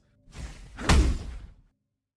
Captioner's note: swoosh, Thud